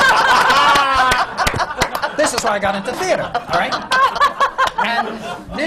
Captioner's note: laughter